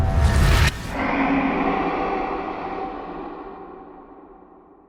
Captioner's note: animal roaring